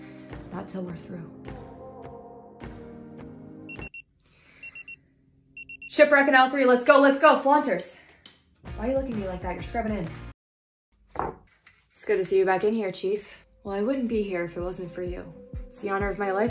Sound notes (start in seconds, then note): 4.6 pager beeps